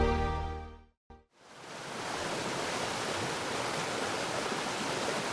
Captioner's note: waterfall streams